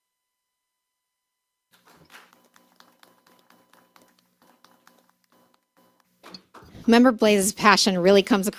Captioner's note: applause